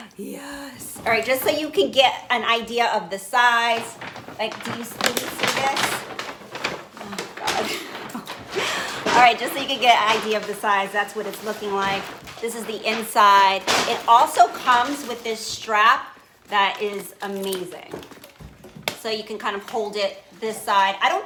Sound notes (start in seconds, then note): 0.0 gasping; 6.4 paper bag crinkling; 7.6 laughing